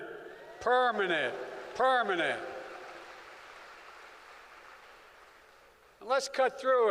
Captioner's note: applause